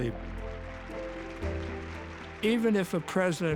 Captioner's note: applauding